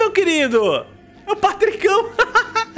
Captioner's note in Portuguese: risos